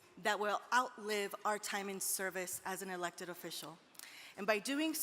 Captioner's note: none